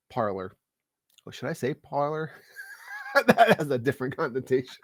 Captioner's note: scoffs